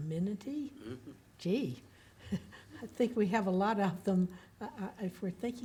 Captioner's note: laughs